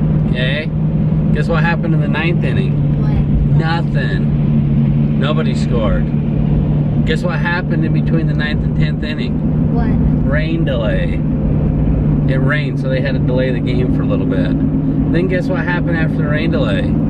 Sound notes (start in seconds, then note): none